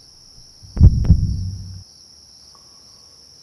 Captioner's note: heartbeat